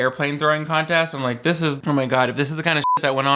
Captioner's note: beep